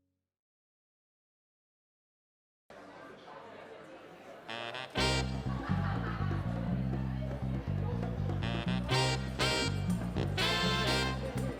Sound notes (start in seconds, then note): 2.7 crowd chattering; 3.2 upbeat music